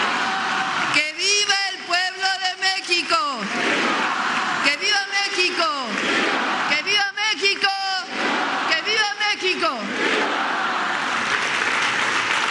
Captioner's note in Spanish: aplausos